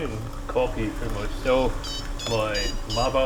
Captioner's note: coffee device beeps